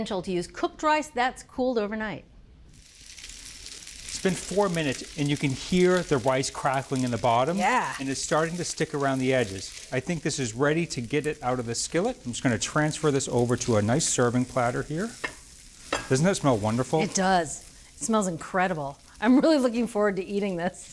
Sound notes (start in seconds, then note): 2.8 rice crackling